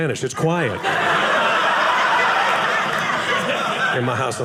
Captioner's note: audience laughing